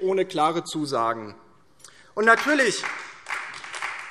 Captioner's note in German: Beifall DIE LINKE und SPD